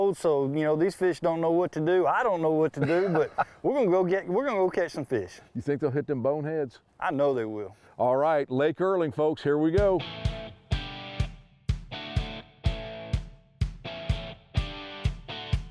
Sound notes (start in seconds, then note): 2.7 laughs; 9.8 upbeat music